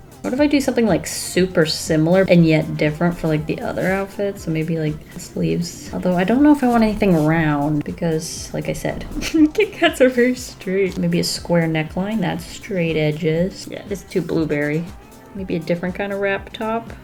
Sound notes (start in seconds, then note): 8.8 laughs